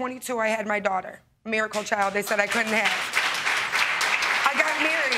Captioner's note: audience clapping